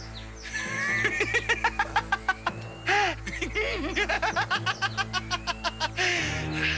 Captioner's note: suspenseful music; laughing manically